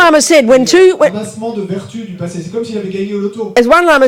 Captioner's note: speaking in French